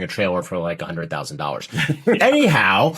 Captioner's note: they laugh